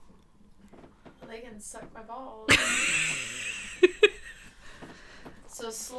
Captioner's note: laughing